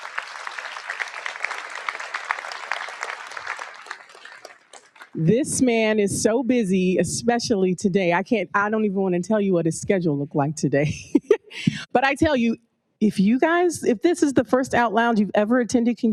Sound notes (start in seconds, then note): 0.0 audience applauds; 12.4 laughs